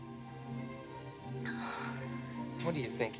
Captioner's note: sighs